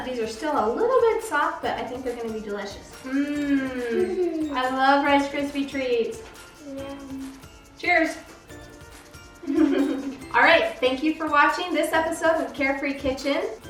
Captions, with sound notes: These are still a little bit soft but I think they're gonna be delicious. - Yum. I love Rice Krispie treats. - Cheers. (laughter) All right, thank you for watching this episode of Care Free Kitchen.